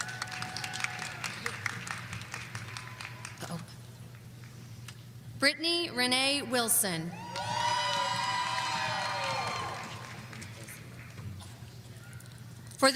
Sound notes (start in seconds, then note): 0.0 audience applauding; 7.1 audience cheering